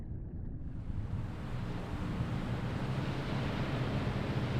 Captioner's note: wake crashing